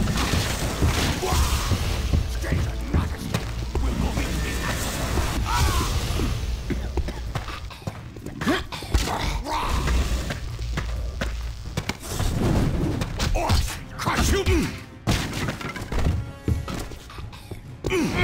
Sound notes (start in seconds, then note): 0.2 sounds of hectic combat, orcs coordinating; 5.3 sounds of hectic combat, orcish cries of pain; 13.8 sounds of hectic combat, orcish cries of pain